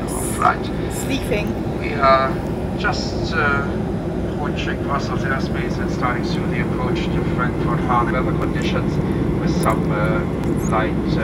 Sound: airport tannoy

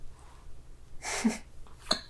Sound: laughter

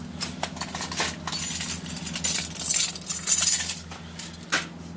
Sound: keys jangling

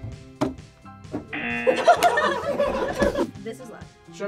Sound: buzzer; group laughs

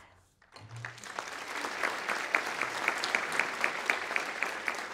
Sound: audience applauding

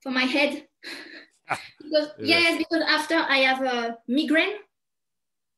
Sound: chuckles

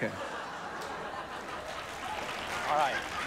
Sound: laughter

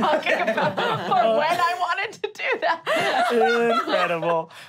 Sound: laughing

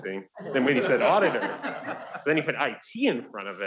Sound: audience laughs

